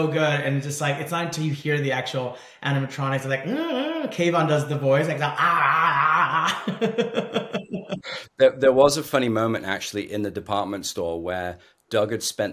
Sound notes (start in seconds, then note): 3.0 mimicking animatronics